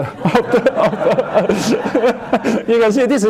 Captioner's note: laughter